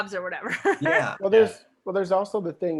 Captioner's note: laughs